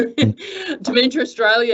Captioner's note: chuckles